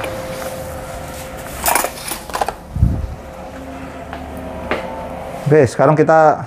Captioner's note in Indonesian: suara mesin printer